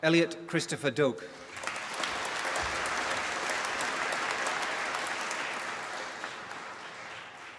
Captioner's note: applause